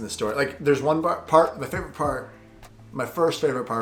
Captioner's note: stumbles over words